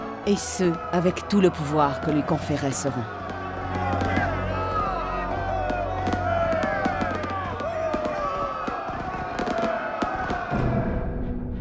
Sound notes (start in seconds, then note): 3.1 bells ringing; 3.1 fireworks popping; 8.0 dramatic music